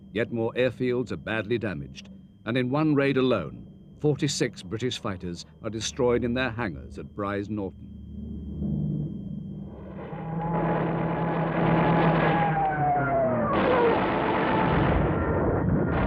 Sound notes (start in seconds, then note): 10.5 plane engines roaring